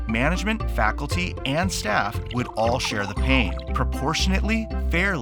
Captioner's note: water draining